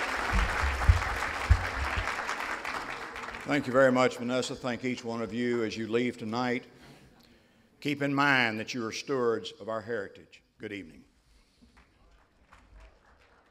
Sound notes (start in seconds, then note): 0.0 applause; 11.1 silence; 11.7 applause